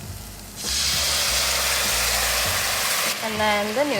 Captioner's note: wok sizzles